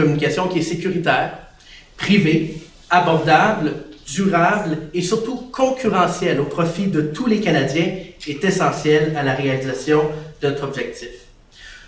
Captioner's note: speaks French